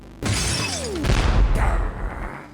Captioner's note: window breaks; building rumbles; growls